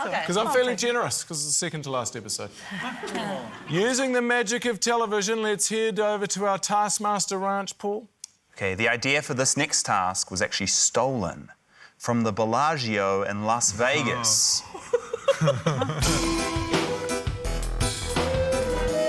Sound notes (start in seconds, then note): 13.9 laughs; 16.0 mysterious music